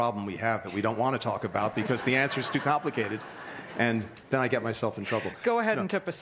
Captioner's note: laughter; laughter